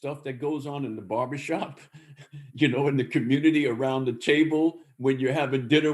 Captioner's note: laughs